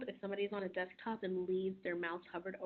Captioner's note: none